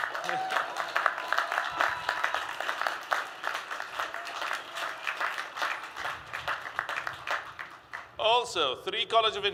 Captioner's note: applause